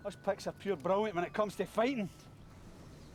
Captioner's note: speaks foreign language; mutters; speaks foreign language